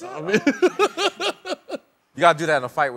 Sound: laughter

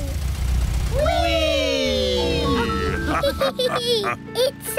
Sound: all laugh

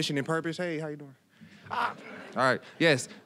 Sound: audience chuckling

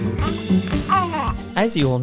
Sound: giggles

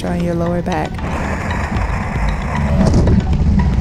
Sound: scraping

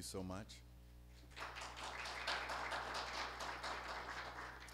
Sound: applause

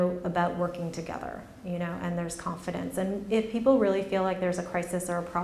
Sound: none

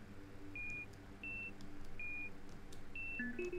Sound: container beeps

